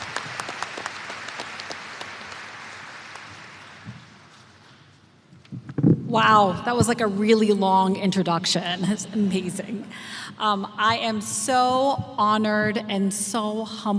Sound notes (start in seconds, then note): 0.0 applause